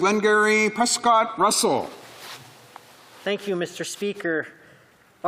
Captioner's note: speaking French